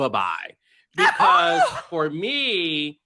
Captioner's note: Robyn Dixon screams